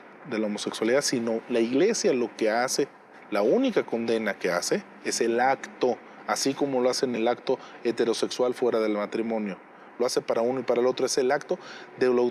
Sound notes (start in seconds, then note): 1.2 speaking in Spanish